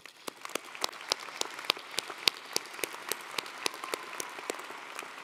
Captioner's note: audience applauding